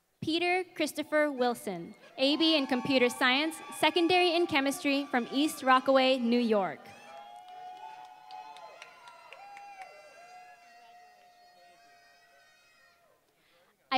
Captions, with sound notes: Peter Christopher Wilson, AB in computer science, secondary in chemistry from East Rockaway, New York. [APPLAUSE] Congratulations. Thank you.